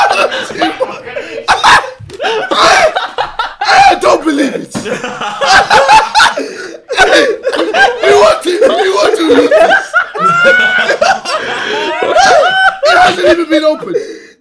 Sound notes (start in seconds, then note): 4.3 all laughing